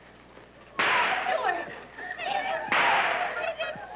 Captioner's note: whip cracking; captives wailing